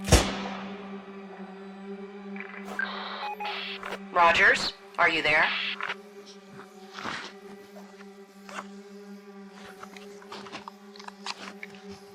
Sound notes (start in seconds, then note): 0.0 gunshot; 1.4 suspenseful music; 2.6 radio bleep